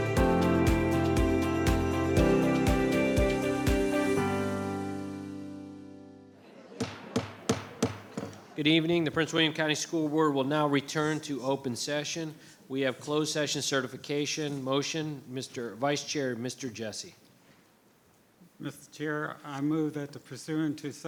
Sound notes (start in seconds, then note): 6.4 people chattering; 6.8 gavel thudding